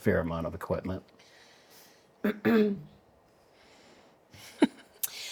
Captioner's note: clears throat